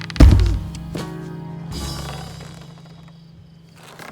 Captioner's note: rope creaking; tire swing thuds